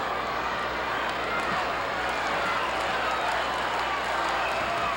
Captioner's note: audience applauding